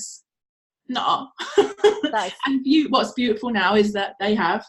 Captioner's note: laughs